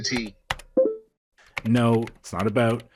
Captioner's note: typing noises